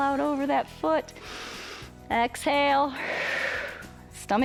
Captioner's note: inhales; exhales